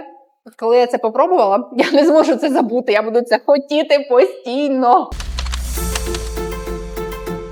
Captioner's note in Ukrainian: сміх